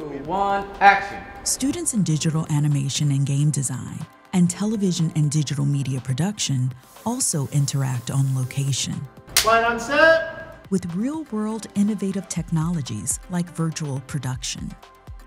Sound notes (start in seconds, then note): 9.3 clapboard smacks